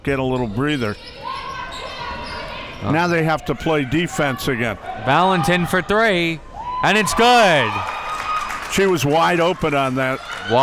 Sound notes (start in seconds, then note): 6.5 crowd cheers